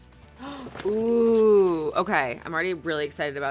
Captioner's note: gasps